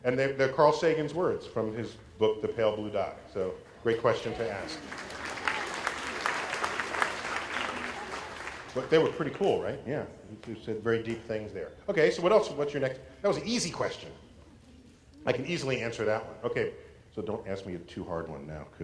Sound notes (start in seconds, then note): 6.5 applause